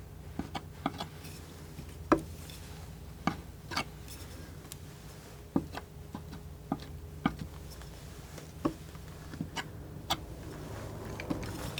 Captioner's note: scratching